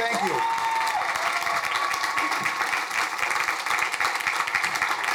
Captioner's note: crowd cheering